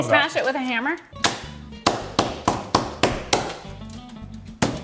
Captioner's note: hammer banging